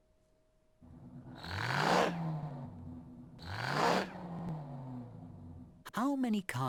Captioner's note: car acceleration sound